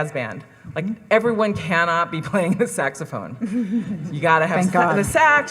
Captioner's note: laughs